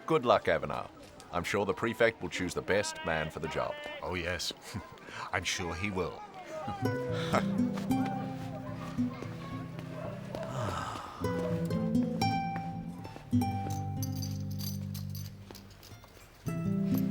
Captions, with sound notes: good luck Aviner, I'm sure the prefect will choose the best man for the job. - Oh yes, I'm sure he will. (Ruel laughing) (somber music) (Aviner exhaling)